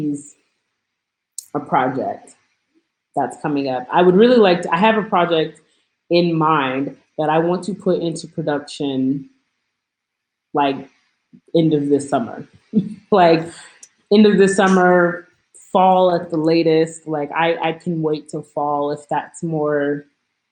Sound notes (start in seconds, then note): 12.4 laughs